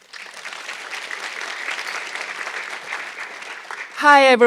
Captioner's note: audience clapping